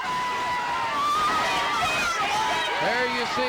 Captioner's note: audience cheering